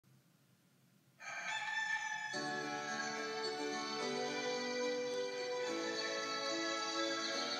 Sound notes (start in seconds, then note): 1.2 rooster crowing